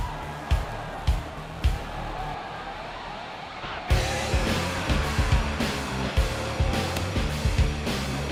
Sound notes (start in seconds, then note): 0.0 crowd chattering, cheering